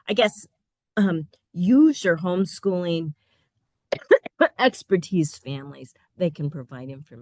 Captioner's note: coughing